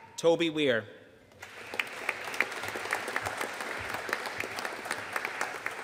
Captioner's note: audience applauding